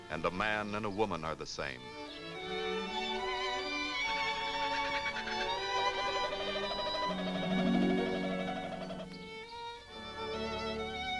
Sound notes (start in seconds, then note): 2.7 birds singing; 6.1 romantic music